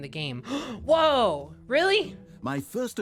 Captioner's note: gasps